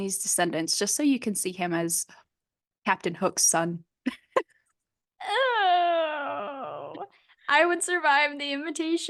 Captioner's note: noises of disgust